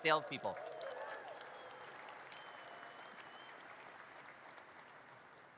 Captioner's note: audience cheers and claps